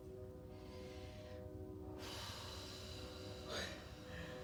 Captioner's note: breathing deeply